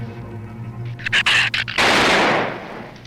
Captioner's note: gun fires; shrew snarls; gun fires